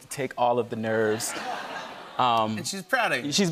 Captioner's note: laughter